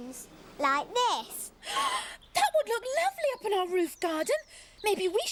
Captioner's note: gasps